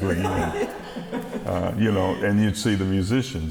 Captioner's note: laughing